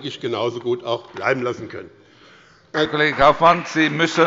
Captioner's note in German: Beifall bei dem BÜNDNIS 90/DIE GRÜNEN und der CDU